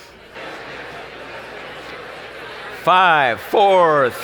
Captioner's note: audience talking